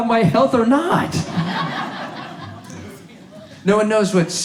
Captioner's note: audience laughs